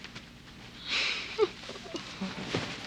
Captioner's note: giggles